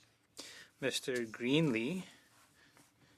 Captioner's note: speaking French